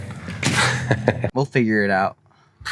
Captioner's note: man laughing